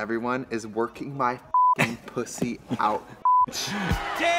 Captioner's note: beep